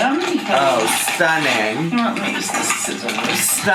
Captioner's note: chip bag rustling